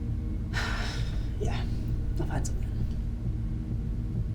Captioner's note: sighs